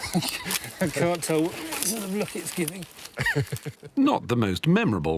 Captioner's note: laughs